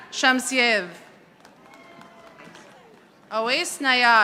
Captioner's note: audience applauding